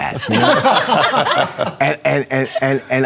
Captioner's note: laughter